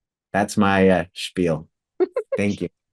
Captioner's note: chuckles